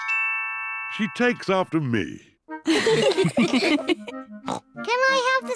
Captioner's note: all laugh; snorts